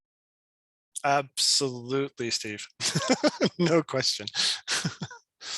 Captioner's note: chuckles